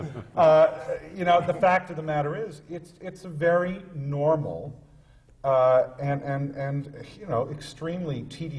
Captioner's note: laughter